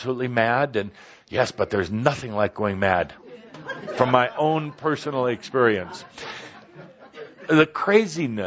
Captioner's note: laughter